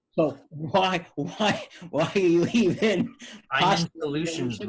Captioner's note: giggles; laughs